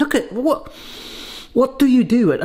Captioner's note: sniffing